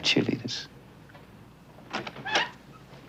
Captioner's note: door squeaks